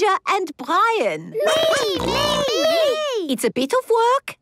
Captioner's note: snorting